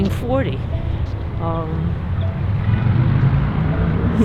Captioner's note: traffic droning